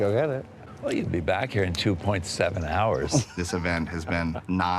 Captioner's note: laughs